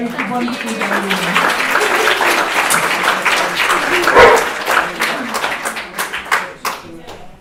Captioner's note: applause and dogs barking